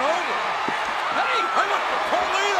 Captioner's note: audience cheering